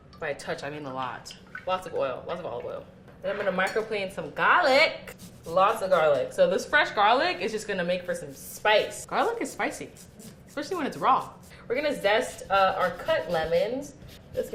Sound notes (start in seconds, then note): none